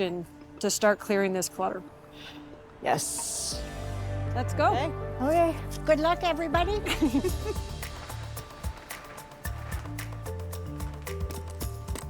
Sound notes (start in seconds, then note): 6.8 laughing